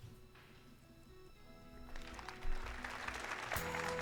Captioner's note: cheering and applause